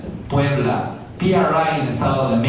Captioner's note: spanish